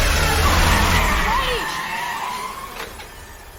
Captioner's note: tires screeching